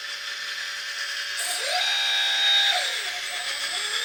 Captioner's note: motor whirs